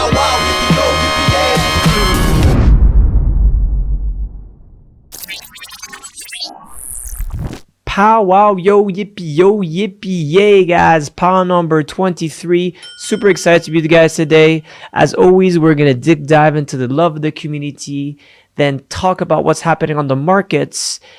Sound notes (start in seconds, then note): 5.1 machine whirring; 12.8 bell dinging